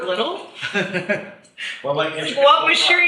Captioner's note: laughs